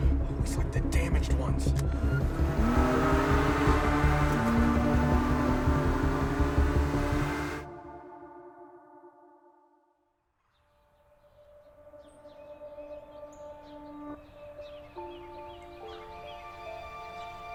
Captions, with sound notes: Always get the damaged ones. (car engine roaring) (frenzied music) (solemn music) (birds chirping)